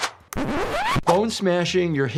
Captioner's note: record scratching